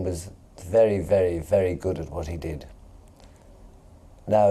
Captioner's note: none